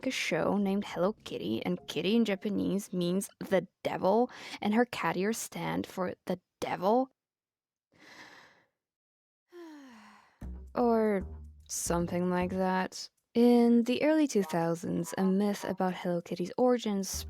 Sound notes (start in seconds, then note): 9.6 deep breath